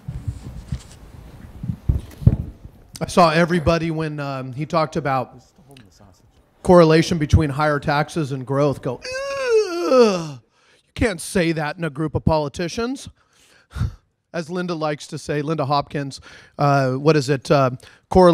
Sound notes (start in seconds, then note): 8.9 groans